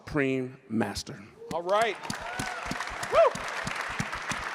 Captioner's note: crowd cheering